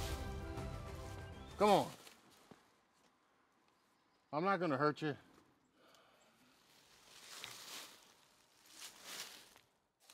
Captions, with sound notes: Come on. (birds chirping) I'm not gonna hurt you.